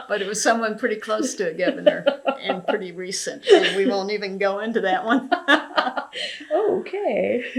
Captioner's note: laughter